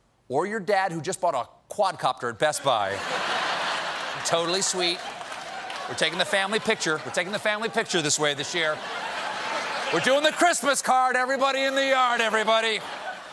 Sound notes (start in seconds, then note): 2.7 laughter